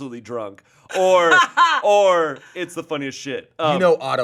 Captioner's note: laughing